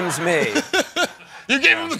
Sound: laughing

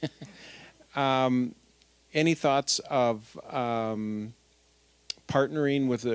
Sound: chuckling

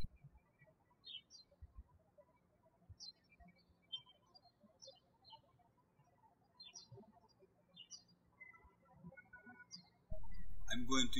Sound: birds chirping

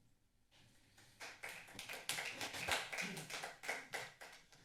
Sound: applause

